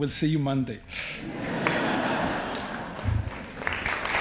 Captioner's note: audience laughs